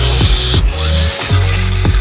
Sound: vending machine motor whirring; coins clinking

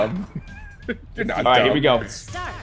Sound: laugh

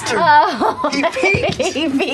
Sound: laughing; laughter

